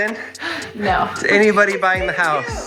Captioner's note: laughing